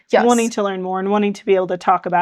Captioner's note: laughing